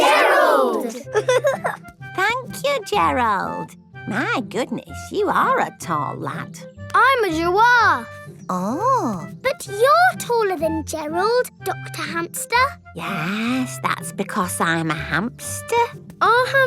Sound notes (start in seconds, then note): 0.9 giggling